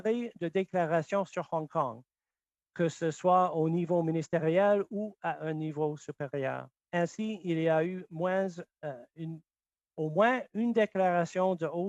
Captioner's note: speaking French